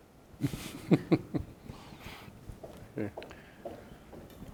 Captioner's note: chuckling